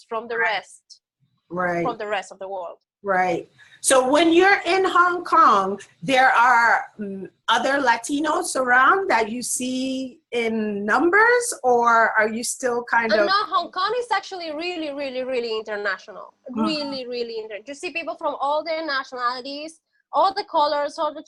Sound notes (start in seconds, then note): none